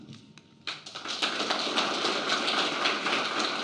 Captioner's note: applause